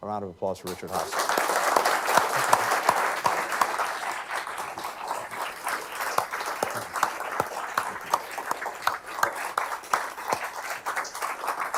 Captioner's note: applause